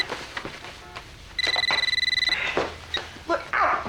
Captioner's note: telephone ringing